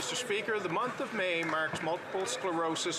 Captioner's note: some Applause